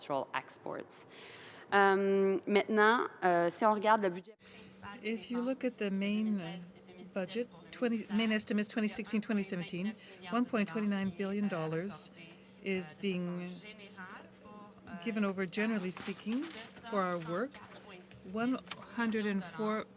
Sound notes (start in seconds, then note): 8.2 speaking French